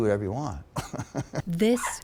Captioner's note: laughter